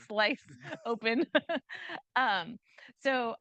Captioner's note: chuckles